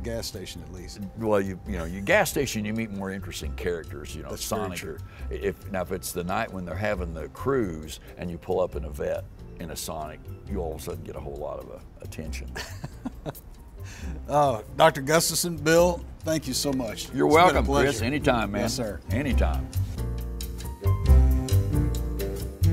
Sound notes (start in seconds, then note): 12.5 chuckles; 19.6 jazz music playing